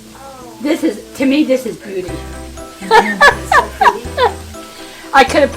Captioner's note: laughs